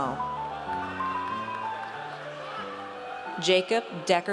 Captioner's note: audience cheers